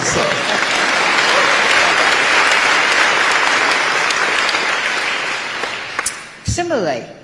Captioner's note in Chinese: 台下鼓掌